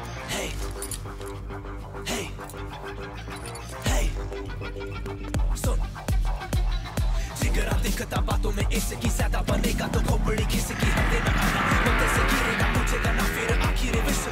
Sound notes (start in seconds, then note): 9.0 Bike engine starts